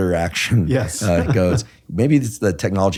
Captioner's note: laughs